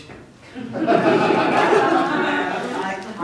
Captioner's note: laughter